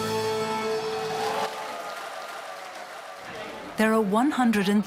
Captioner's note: people cheering